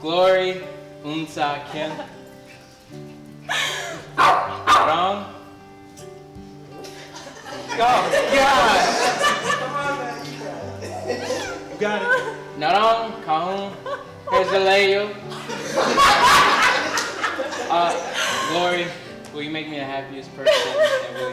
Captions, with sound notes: Glory (speaks in Korean). Oh gosh. (speaks in Korean) (laughter) Glory, will you make me the happiest person,